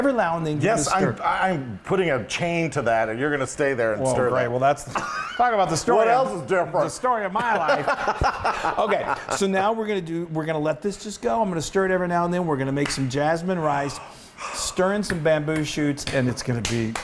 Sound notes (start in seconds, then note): 7.4 laugh